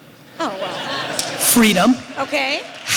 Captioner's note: audience laughter